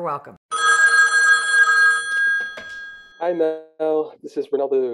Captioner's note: phone rings